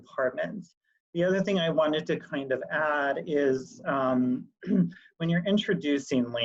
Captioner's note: clears voice